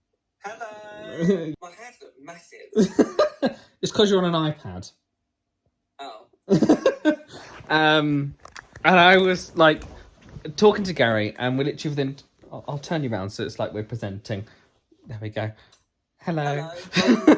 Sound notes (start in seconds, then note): 2.8 laughs; 6.5 laughs; 16.8 laughs